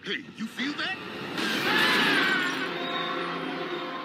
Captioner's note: Blubs and Durland screaming